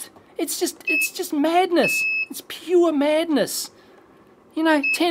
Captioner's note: beeps